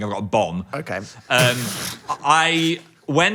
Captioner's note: laughs